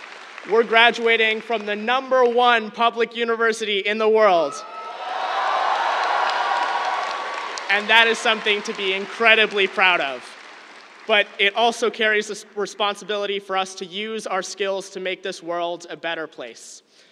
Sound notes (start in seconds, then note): 4.4 cheers, applause